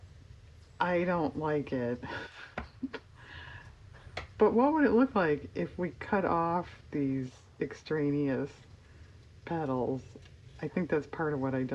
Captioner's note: laughs